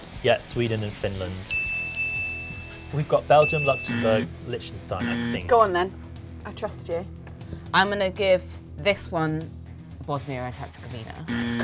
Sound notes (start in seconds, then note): 1.5 bell dings twice; 1.5 bell dings; 3.4 alarm; 11.2 alarm